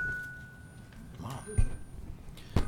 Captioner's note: microphone whistling